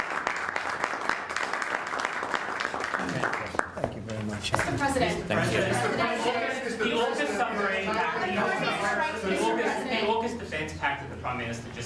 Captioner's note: applause